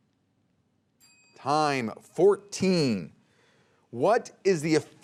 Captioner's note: bell dings